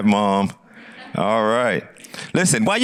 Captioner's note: audience laughs